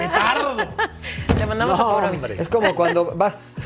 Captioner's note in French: todos hablando